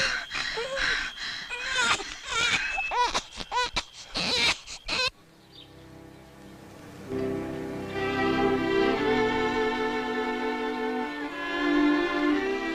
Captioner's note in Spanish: Llanto de bebé